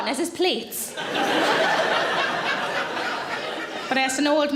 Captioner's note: audience laughing